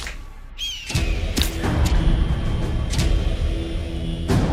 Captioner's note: gull squawking; gull thumping; dramatic music crescendos